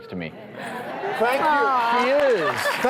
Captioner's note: cheering